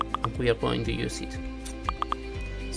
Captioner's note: Slack notifications